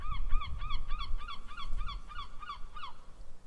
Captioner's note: seagulls calling